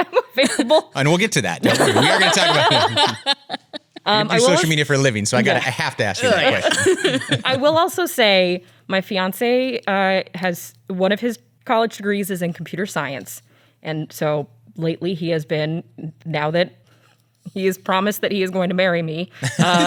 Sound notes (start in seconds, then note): 1.6 laughs